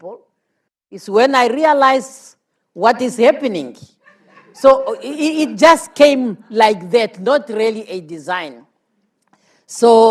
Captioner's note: laughter